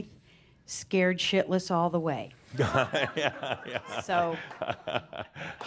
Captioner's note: laughs; she sighs